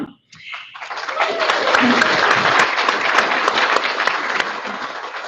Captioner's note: audience clapping